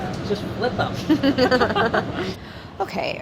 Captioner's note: laughing